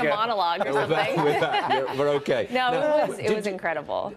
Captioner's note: laughter